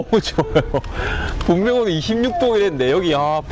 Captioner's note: bone-chilling sea breeze